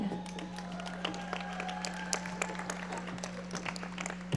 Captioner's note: audience applauding